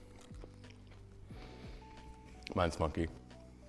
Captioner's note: sniffing